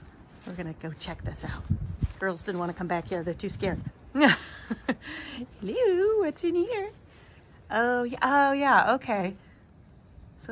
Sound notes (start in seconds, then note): 4.2 laughing